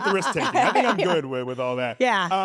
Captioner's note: laugh